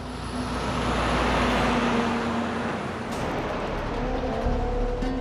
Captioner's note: truck engine humming; mellow guitar music